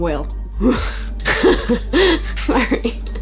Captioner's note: laughing